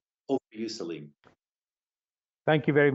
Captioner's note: speaking in a foreign language